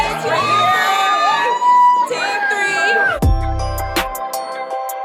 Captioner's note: guests cheering; gentle joyful music